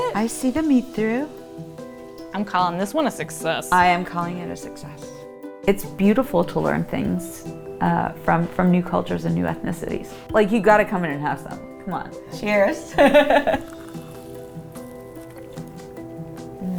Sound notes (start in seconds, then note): 12.9 chuckles; 13.9 gentle music